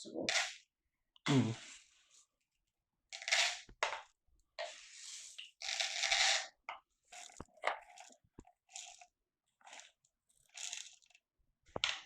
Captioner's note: pouring noises